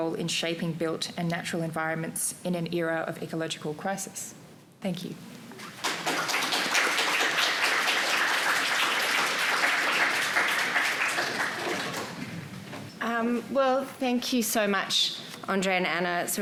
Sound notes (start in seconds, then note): 5.6 audience applauding